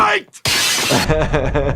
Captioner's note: glass crashing; laughing